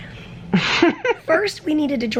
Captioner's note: chuckles